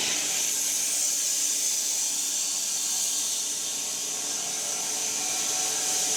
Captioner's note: log saw whirring continues